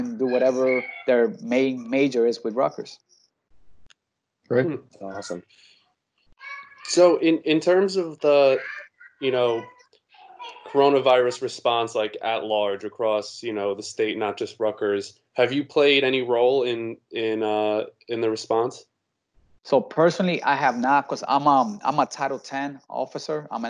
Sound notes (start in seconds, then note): 4.5 background chattering